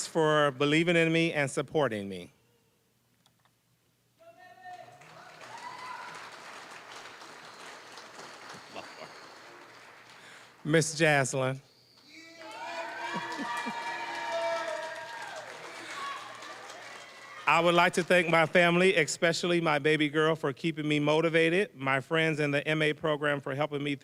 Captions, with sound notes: "for believing in me and supporting me." >> Go Gabby! >> Whooo! (applause) >> Ms. Jaz'Llyn. (cheering, applause) "I would like to thank my family, "especially my baby girl, for keeping me motivated, "my friends and the MA program for helping me